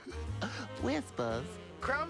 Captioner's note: laughs